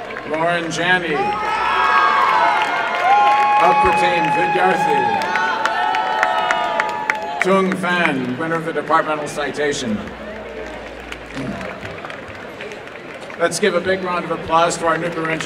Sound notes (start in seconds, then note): 1.5 applause and cheering; 9.7 applause